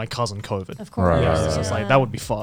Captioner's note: group agreeing